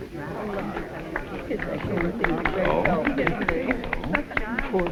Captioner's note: crowd clapping